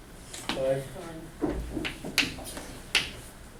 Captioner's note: voiceover